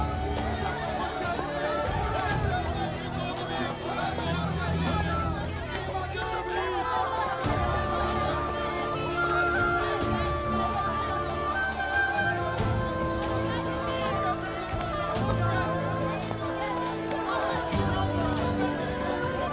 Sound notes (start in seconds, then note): 2.5 Kalabalık bağrışma sesleri; 8.0 Müzik - Vurmalılar ve ney; 14.6 Kalabalık bağrışma sesleri